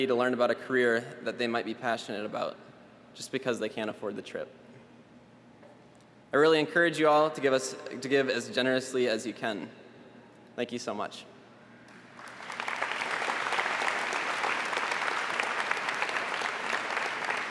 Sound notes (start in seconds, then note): 14.5 applause